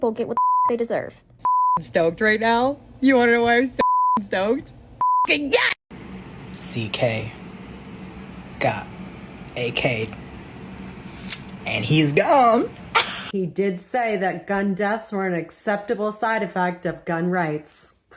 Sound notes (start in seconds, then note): 0.3 beep; 3.8 beep